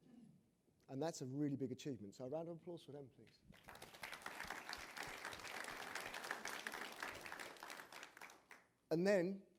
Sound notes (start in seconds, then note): 3.5 applause